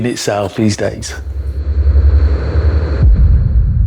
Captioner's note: dramatic noise